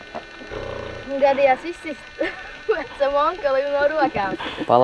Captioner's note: laughs